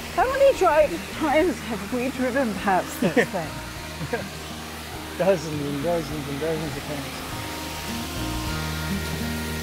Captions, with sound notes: How many times have we driven past this thing? [chuckles] Dozens and dozens and dozens of times.